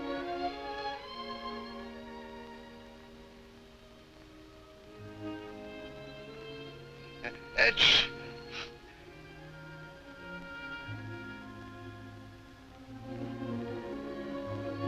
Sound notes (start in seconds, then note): 7.6 fake sneezes